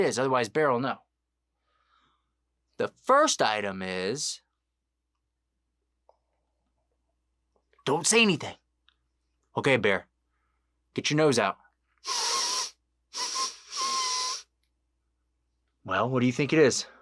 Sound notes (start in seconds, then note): 12.0 sniffing noise